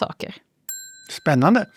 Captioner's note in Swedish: Bell ding